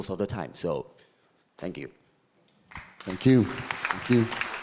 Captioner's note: audience applauding